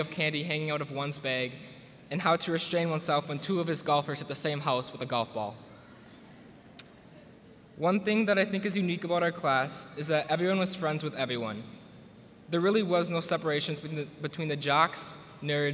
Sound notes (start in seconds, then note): none